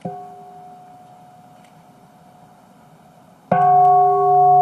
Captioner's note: bell ringing